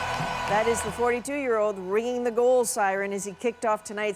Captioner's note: applause